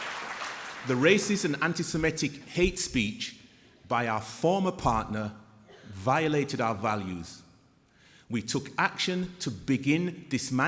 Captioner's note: applause